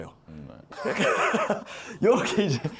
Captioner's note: laughing out loud